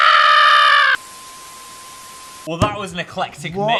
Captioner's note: screen buzzes